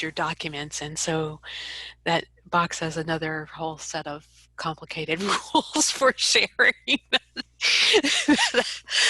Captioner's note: laughs